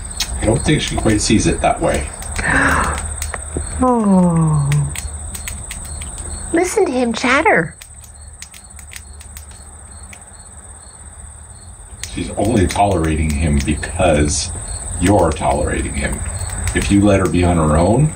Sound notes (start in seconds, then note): 4.3 rodent chewing sound; 7.7 rodent chewing sound